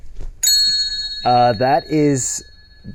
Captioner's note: bells ringing